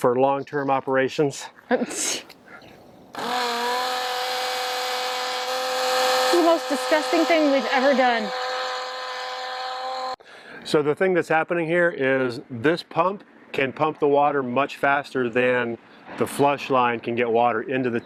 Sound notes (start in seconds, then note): 3.1 pump roaring